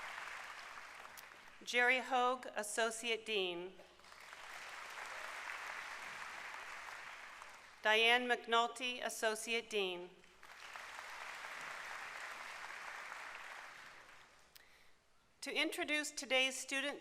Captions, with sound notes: Jerry Hoag, Associate Dean. [applause] Diane McNulty, Associate Dean. [applause]